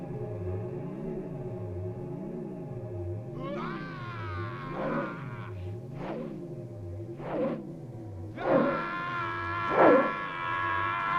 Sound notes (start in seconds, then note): 3.9 Gordoza shouting